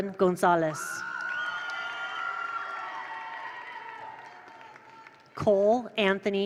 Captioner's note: attendees cheer; attendees applaud